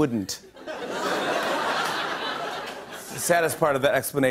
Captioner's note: laughter